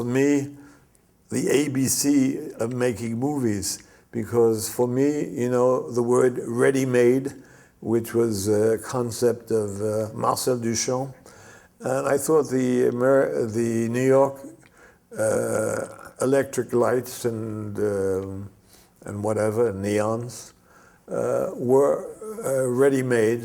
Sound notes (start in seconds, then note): 10.7 French